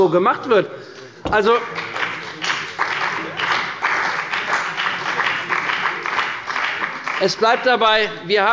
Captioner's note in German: Beifall bei der CDU und dem BÜNDNIS 90/DIE GRÜNEN